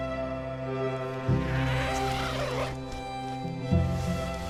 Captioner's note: zipper